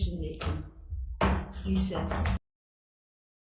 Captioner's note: gavel bangs